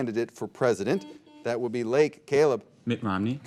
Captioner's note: buzzer beeping